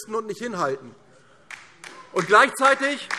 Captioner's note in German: Beifall DIE LINKE